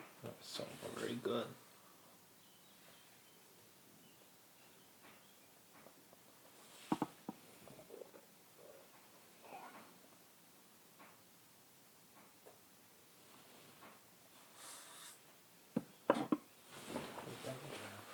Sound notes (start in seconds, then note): 1.8 moving things around the table, the sound of the room